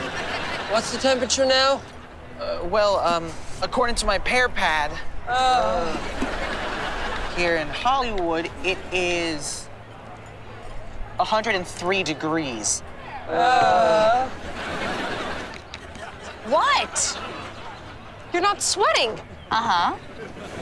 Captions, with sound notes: What's the temperature now? Well, um, according to my Pear Pad, [groaning] Here in Hollywood, it is... 103 degrees. [groaning] What? You're not sweating. Uh-huh.